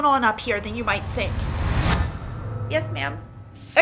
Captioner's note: boom echos